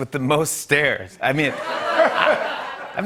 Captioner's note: laughter